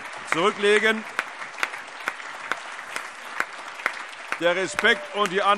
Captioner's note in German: Anhaltender Beifall